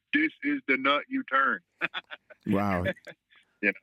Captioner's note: laughter